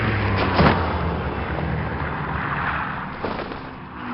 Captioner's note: airplane Flies